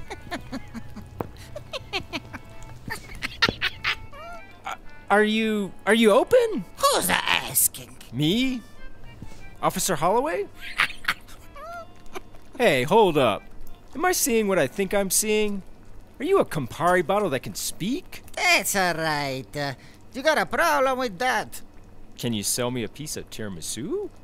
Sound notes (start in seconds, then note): 1.3 laughs; 10.6 laughs